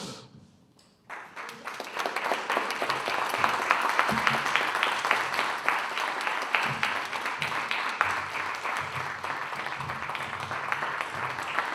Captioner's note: applause